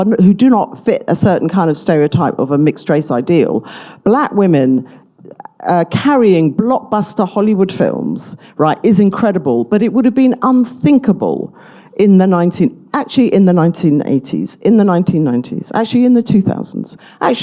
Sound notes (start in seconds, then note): none